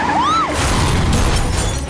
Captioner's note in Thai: เสียงกรี๊ด; เสียงรถชน